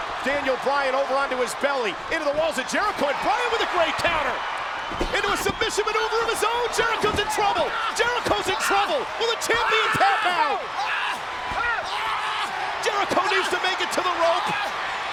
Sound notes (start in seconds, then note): 0.0 audience cheering; 4.4 audience cheering; 10.9 Jericho screaming